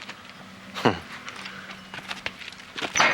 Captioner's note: chuckle